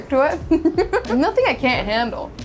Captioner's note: laughing